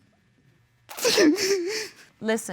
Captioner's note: sobbing